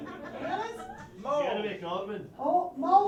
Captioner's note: someone yells "mole"